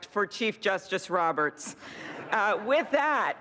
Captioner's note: laughter